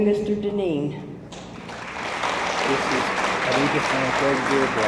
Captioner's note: attendees applaud